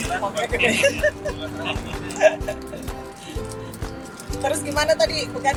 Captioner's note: laughing